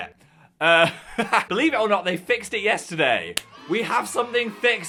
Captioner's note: laughs